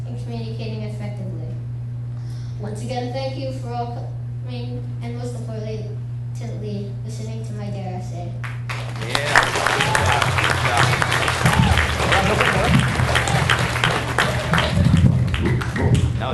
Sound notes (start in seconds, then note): 8.6 audience applauds; 9.6 claps; 9.7 audience cheers and applauds; 10.8 claps; 11.6 audience cheers and applauds; 12.4 mic rustling; 12.4 officer faintly speaks; 13.3 audience applauds